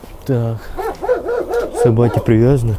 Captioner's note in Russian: лай собак